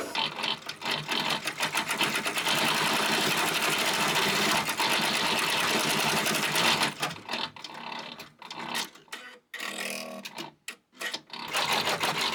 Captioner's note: embroidery machine making noise